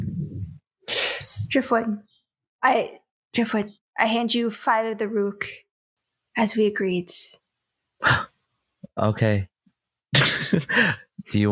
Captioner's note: gasps